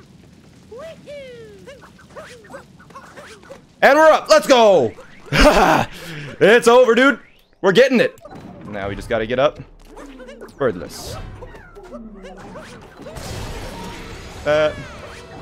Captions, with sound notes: And we're up, let's go!! [laughs] It's over, dude. We're getting it. Now we just gotta get up birdless